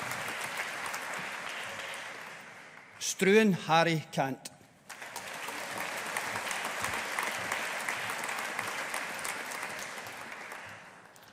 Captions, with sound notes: Struan Harry Cant. (AUDIENCE APPLAUDING)